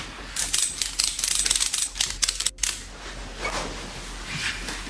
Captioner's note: ratchet clicking